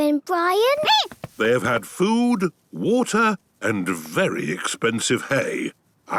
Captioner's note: squeaking